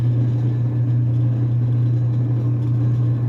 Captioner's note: loud humming sound